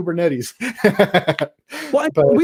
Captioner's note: laughter